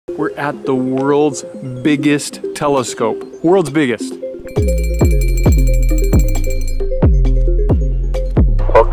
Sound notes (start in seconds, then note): 4.4 jingling; 7.1 ambient music